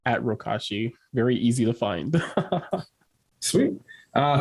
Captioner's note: chuckles